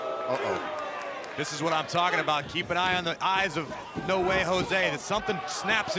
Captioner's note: crowd cheering